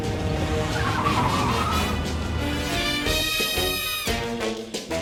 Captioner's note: tires squealing; playful dramatic music